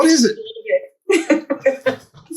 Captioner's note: laughs